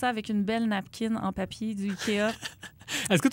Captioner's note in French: rires